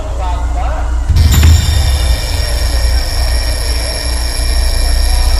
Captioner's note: alarm ringing